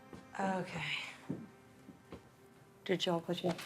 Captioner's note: sighs